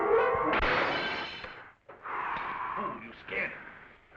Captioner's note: glass shattering